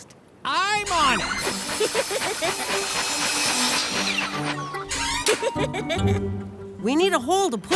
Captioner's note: sawing; giggling